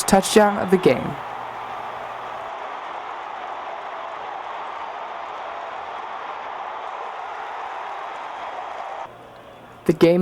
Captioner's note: crowd noise and cheering